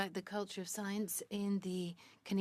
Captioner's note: speaking French